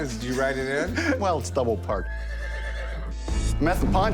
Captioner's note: horse whinnies